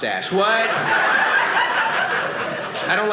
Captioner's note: audience laughing